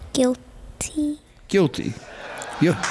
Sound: laughing

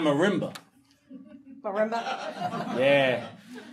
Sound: audience laughing

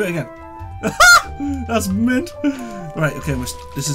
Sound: laughs

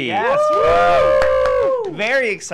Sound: cheering

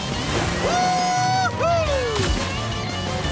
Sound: cheering

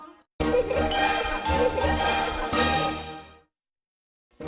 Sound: laughter and music resuming

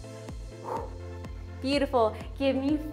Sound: exhaling

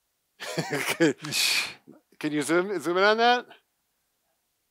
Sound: chuckles

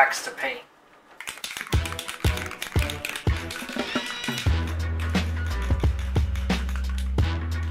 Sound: spray can rattling; upbeat music

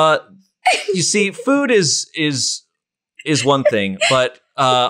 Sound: laughs

